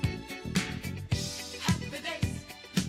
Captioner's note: none